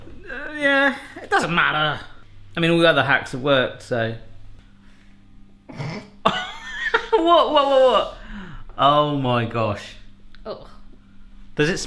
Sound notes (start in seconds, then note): 5.7 laughing